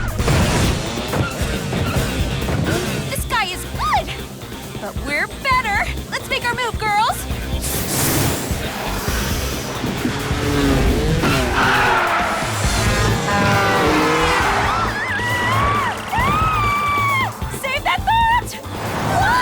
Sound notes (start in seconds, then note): 10.3 car horns honk